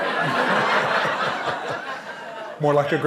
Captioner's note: laughter